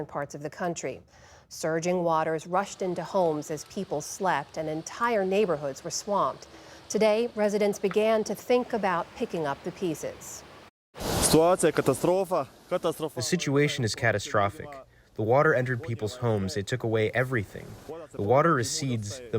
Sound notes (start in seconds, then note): 12.7 through translator